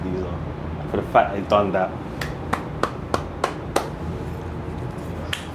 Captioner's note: clapping